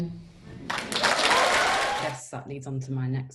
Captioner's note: audience applauding